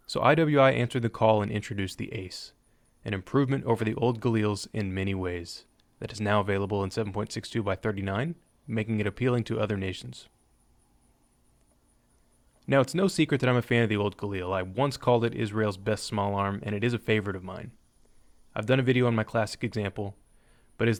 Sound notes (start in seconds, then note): none